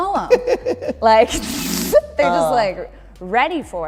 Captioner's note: laughter